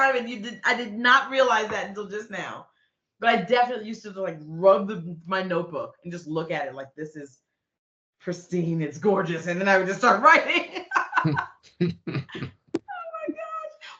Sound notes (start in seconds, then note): 10.7 laughing